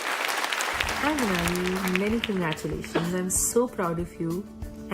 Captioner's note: applause